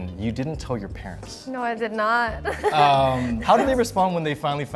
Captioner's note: laughs